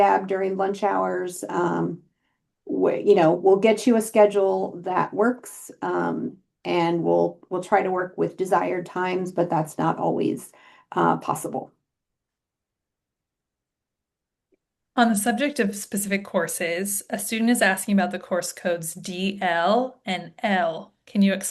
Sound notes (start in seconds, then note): 12.2 silence